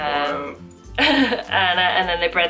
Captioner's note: laughter